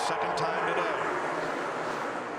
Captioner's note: cheers and applause